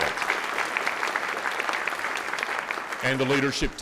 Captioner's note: audience clapping